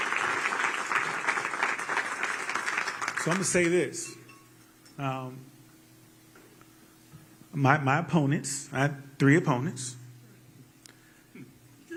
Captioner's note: applause